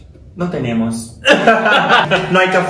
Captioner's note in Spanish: risas